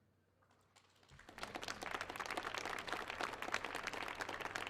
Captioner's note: audience applauds